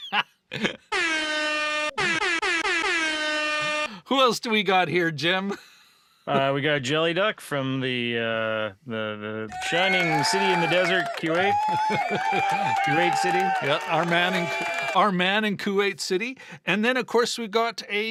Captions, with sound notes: (laughing) (air horn blowing) Who else do we got here, Jim? We got Jellyduck from the shining city in the desert, Kuwait. (audience cheering) Kuwait City. Our man in Kuwait City.